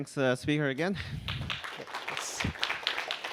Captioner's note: applause